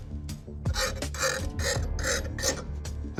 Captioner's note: metal scraping